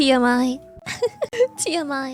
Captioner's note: laughs